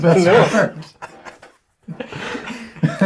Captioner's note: all laugh